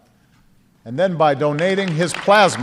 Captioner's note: applause